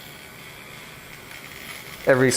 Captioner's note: electric razor buzzing